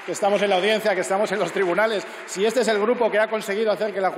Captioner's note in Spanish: Aplausos